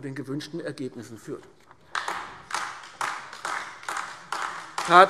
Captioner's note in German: Beifall AfD